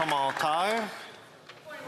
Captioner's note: some Applause